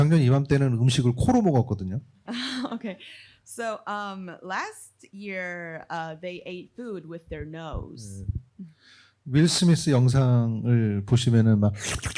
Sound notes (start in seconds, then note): 0.3 speaking korean; 8.7 speaking korean